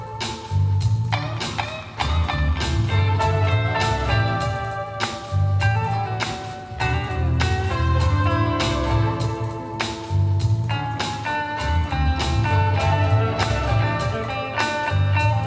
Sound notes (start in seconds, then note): none